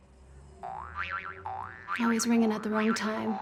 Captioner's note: cartoon noises